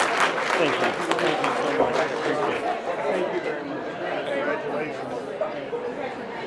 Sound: applause

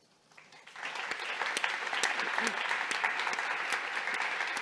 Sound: audience applauding

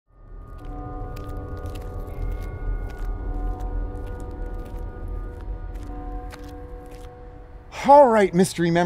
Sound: church bells ringing

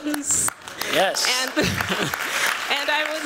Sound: applause

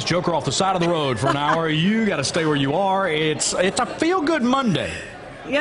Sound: laughter

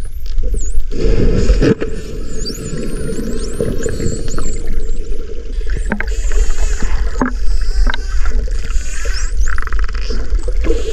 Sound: dolphin noises

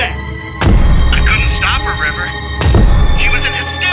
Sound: pizza cutter thuds

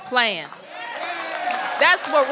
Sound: applause

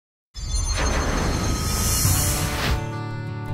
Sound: whooshing; acoustic guitar music

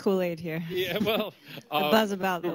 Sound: laughter

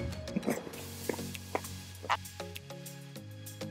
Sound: chewing sound

